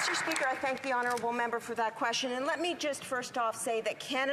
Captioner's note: applause